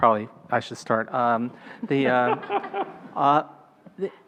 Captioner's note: laughing